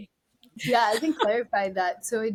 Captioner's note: laughs